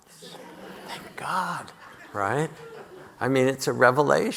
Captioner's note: audience laughing